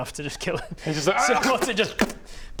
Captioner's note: pop